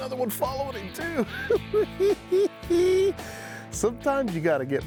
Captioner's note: chuckles